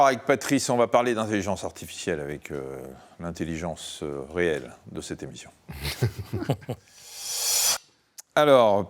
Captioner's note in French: rires